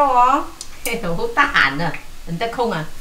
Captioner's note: Cantonese